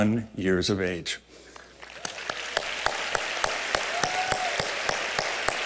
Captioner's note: applause